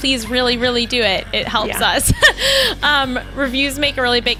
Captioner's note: laughs